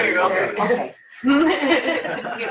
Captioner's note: laughter